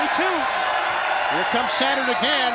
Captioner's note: crowd cheering